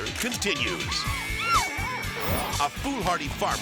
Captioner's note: model screaming